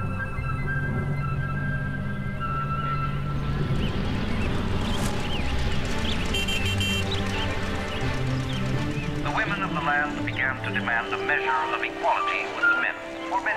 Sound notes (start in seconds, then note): 3.9 birds chirping; 3.9 horn beeps